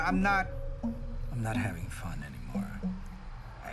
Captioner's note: dejectedly